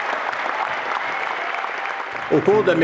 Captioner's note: le public applaudit